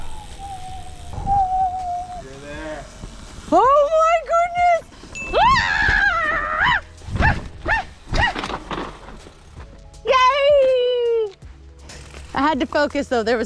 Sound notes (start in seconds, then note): 0.0 whistling; 5.5 celebrating; 6.6 wheels thudding; 10.2 celebrating